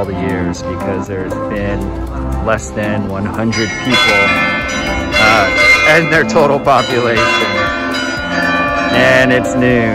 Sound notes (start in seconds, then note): 3.5 loud church bells ringing